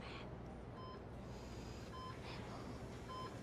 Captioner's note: heart rate monitor beeps